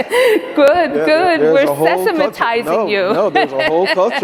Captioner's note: laughing; laughs